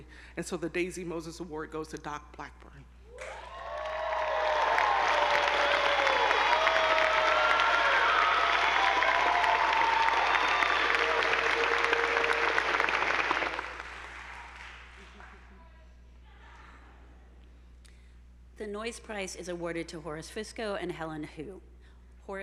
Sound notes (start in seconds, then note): 3.2 attendees applauding; 3.2 audience whooping